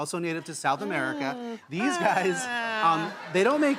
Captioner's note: groans; audience laughs